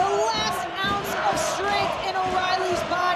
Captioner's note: audience cheering